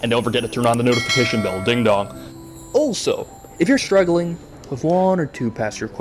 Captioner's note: ding dong